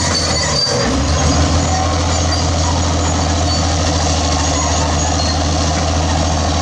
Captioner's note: bulldozer Turbo Sound